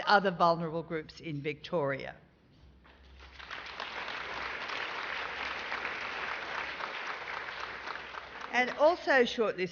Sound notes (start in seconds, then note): 2.9 applause